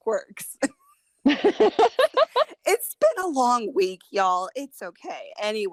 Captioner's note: laughter